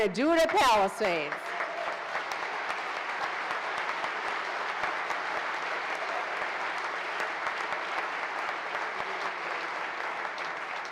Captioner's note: applause